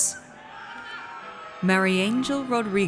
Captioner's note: audience cheers